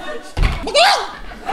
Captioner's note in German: Hühner gackern